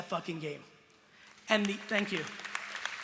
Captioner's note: applause